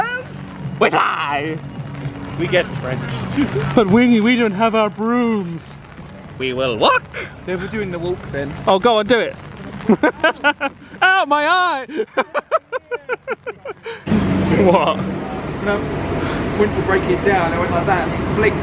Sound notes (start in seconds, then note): 11.8 laughs